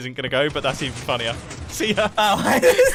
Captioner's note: pistons start; laughing